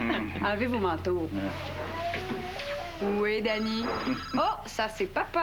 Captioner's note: Le téléphone sonne